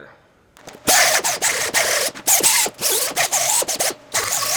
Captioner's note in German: Maschine läuft